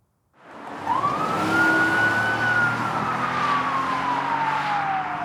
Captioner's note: police siren wailing